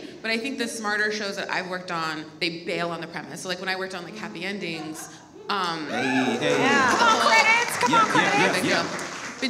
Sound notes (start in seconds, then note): 6.0 audience applauds